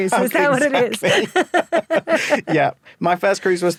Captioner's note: both laugh